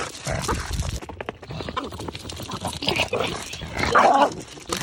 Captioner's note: dog clomping; Kerby growling